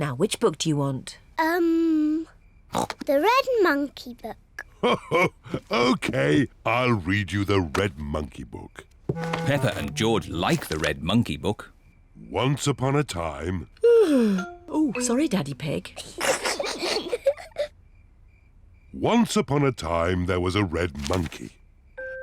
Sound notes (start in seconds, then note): 2.7 snorts; 4.7 laughs; 14.1 yawns; 16.0 peppa and george giggle